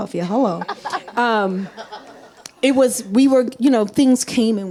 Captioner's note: audience laughs